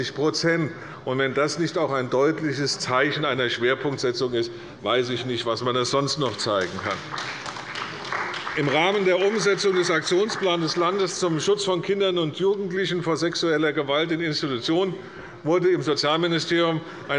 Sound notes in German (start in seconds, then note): 6.2 Beifall bei Abgeordneten der CDU